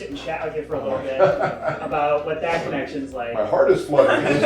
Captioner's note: laughter; laughter